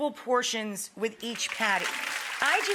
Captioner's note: audience applauds